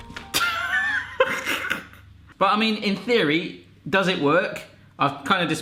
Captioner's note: laughs